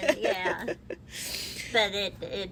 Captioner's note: laughs